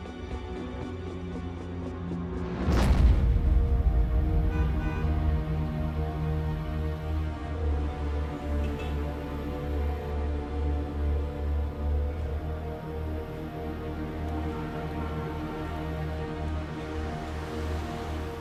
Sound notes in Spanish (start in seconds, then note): 4.4 Sonido del claxon